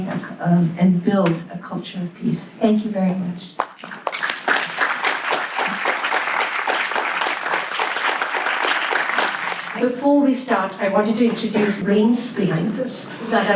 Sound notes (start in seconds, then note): 3.6 audience claps